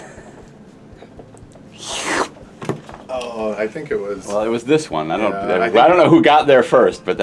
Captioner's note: sipping noise